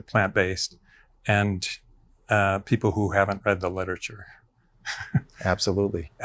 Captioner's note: chuckles